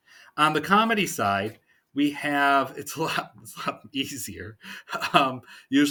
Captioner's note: chuckling